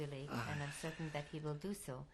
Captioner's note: sighs